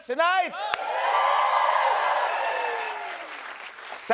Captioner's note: cheers and applause